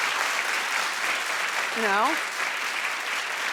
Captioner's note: applauding